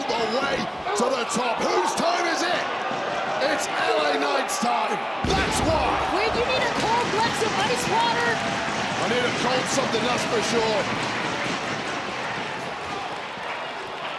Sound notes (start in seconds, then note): 8.8 audience cheering